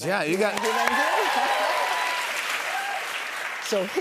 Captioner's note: cheers and applause